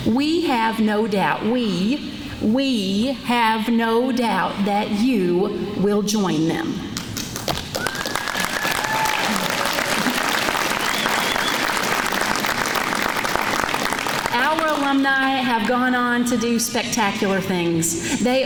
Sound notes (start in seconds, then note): 8.3 applause